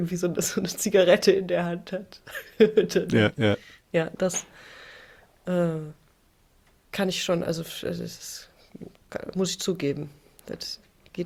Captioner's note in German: gelächter